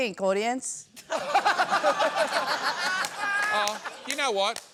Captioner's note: laughter